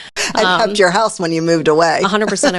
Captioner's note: laughing